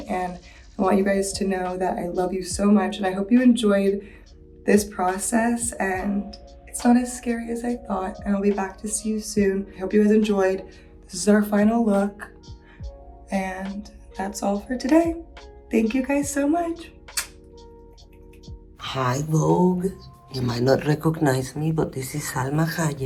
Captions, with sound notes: And I want you guys to know that I love you so much and I hope you enjoyed this process and it's not as scary as I thought. And I'll be back to see you soon. I hope you guys enjoyed. This is our final look. And that's all for today. Thank you guys so much. [lips smacking] [gentle music] - Hi, "Vogue." You might not recognize me, but this is Salma Hayek.